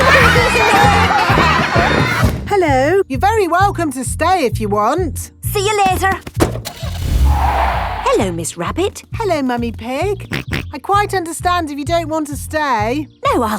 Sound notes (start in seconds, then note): 0.3 laughter; 6.4 car starting; 6.6 tires screeching; 10.5 snorts